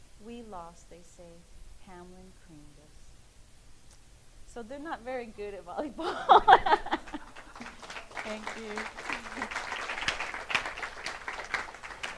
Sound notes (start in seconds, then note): 6.0 laughing; 9.7 clapping